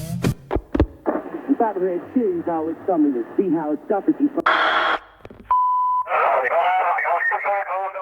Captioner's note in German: Autoradiogeräusch